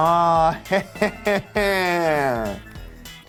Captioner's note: laughing